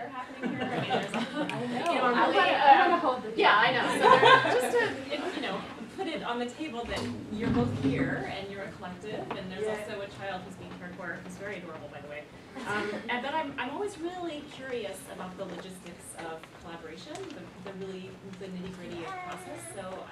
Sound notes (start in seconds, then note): 3.7 all laughing